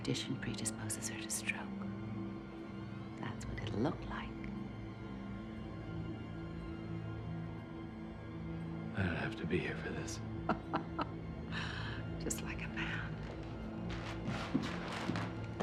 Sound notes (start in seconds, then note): 10.5 laughing